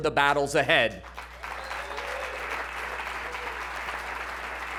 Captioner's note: applause and cheering